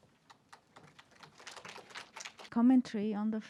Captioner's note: group applauds